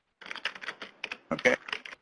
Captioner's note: typing